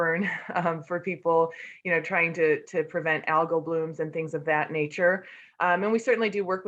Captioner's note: laugh